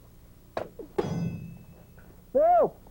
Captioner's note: metal clangs